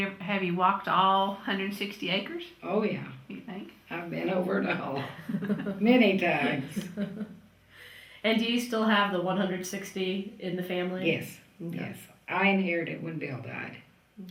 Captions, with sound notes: Have you walked all 160 acres? Oh yeah. I’ve been over it all. (Laughter) And do you still have the 160 in the family? Yes, yes. I inherited it when Bill died.